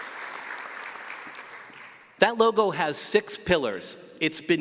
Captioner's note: applause